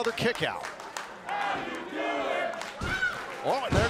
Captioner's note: crowd cheering